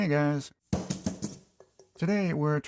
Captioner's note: flopping sound